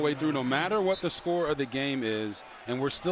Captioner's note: whistle